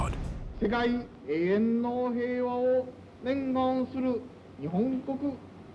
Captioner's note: emperor speaking in Japanese